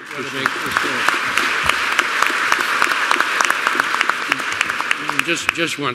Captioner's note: applause